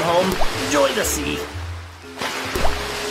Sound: water splashing

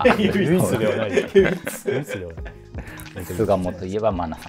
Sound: laughing

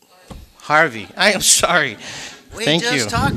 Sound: audience laughing

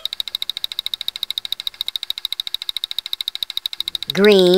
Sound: clicking

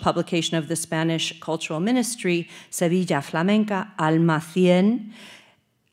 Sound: speaking Spanish; speaking Spanish

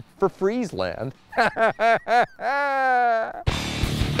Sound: laughs; energetic music

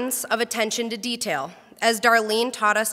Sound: none

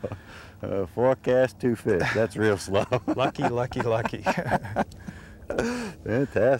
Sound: laughter

